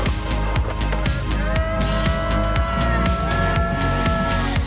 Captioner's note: engine revving; people yelling